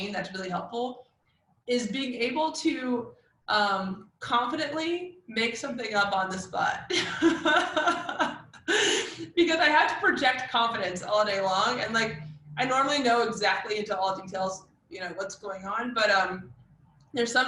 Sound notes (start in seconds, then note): 7.0 laugh